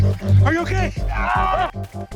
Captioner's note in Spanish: Quejidos